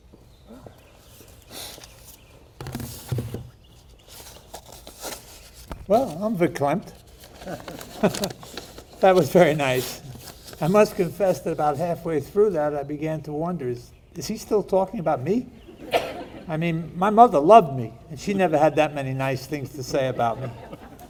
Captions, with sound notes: Well, I'm verklempt. (people chuckling) That was very nice. I must confess that about halfway through that I began to wonder, "Is he still talking about me?" (people laughing) I mean, my mother loved me and she never had that many nice things to say about me.